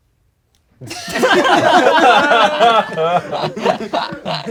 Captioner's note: crowd laughing